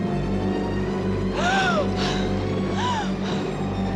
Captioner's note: breathes heavily